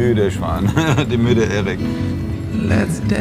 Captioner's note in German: lacht